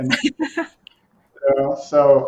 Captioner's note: laughs